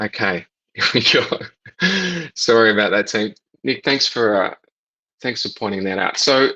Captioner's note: laughs